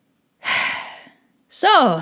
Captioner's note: sigh